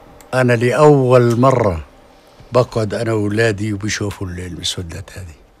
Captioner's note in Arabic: يتحدث لغة أجنبية